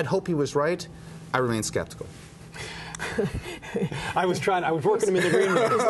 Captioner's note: laughter